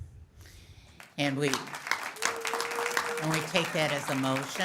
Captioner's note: audience applauds